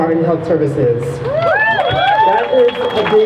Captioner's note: crowd cheers